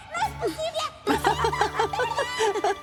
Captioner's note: laughter